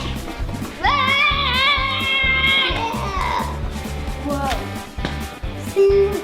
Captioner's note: yells